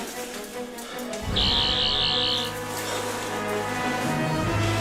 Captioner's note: buzzing